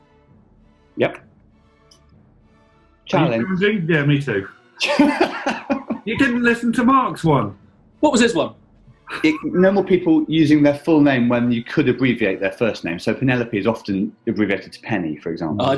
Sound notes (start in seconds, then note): 4.8 laughing